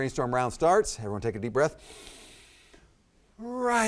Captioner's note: inhales sharply